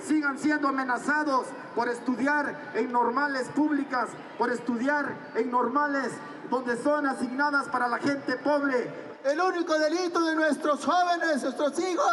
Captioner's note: speaking in Spanish